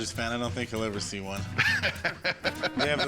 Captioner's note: laughs